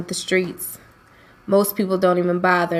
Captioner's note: voiceover